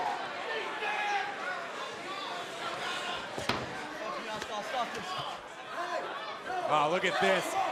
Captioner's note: crowd cheering